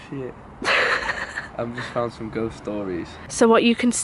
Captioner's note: I laugh off camera